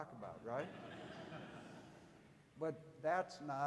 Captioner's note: audience laughing